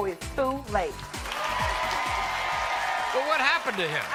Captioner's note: audience cheering and applauding